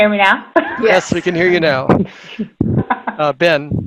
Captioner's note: laughs